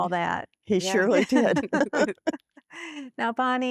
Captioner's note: laughter